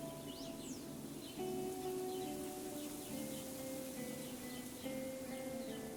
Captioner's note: leaves rustling; soft music